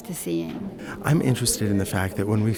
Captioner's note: voiceover